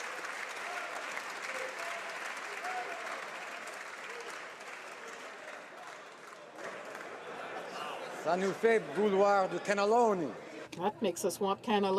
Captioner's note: applause